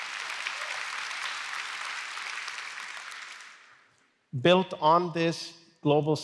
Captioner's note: applause